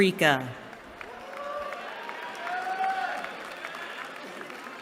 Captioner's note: cheering